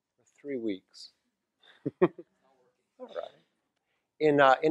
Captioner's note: laugh